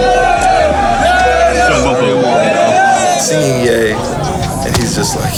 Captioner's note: all chant